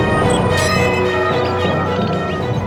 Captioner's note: beeping